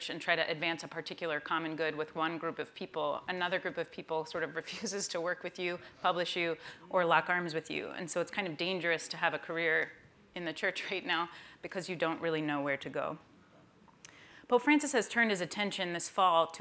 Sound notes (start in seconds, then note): none